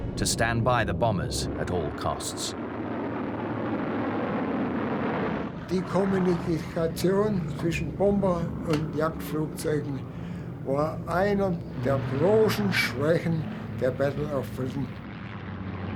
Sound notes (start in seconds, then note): 3.1 plane engines roaring; 5.9 speaking German